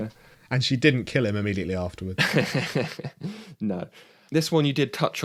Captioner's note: laughs